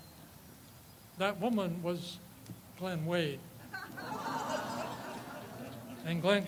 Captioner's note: audience laughs